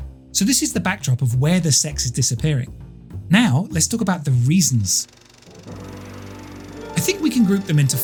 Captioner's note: film reeling